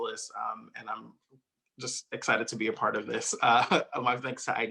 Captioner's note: chuckles